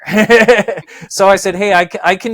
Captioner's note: laughs